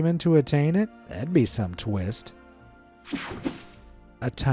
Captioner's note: screen whooshing